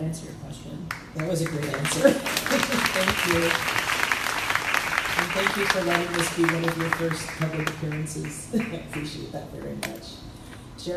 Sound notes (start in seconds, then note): 2.4 crowd applauding; 2.4 laughs